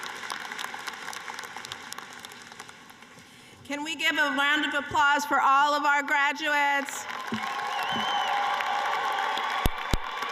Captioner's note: applause